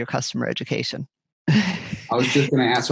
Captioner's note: laughs softly